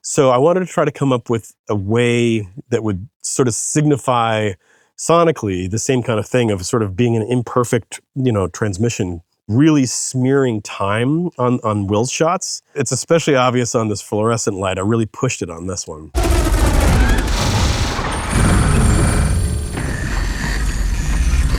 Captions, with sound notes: So I wanted to try to come up with a way that would sort of signify sonically the same kind of thing of sort of being an imperfect, you know, transmission. Really smearing time on Will's shots. It's especially obvious on this fluorescent light. I really pushed it on this one. (audio warbling and buzzing)